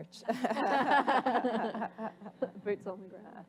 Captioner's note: laughter